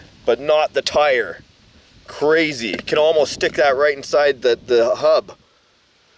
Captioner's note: none